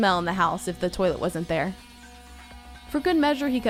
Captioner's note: drilling noise